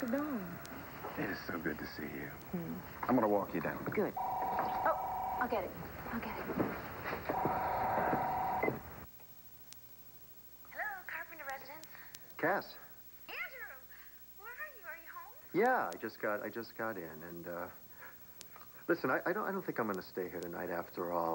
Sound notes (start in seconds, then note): 6.6 telephone rings